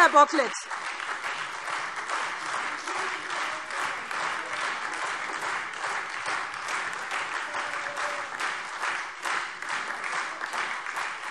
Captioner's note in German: Beifall SPD, AfD, Freie Demokraten und DIE LINKE